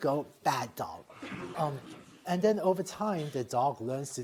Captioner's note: laughter